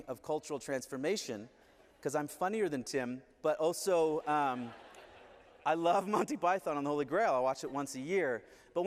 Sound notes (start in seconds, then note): 3.9 laughter